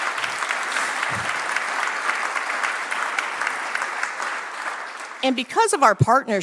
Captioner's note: applause